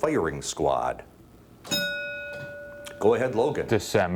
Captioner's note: bell dinging